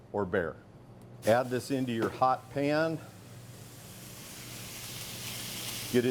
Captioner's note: meat sizzling